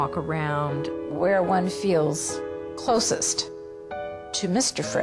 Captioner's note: voiceover